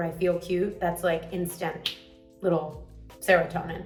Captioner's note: fingers snap